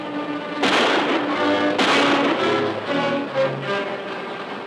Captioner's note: guns firing